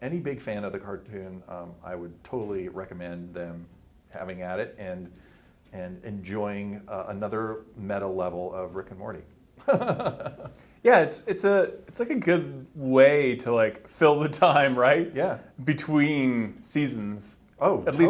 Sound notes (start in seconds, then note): 9.6 he laughs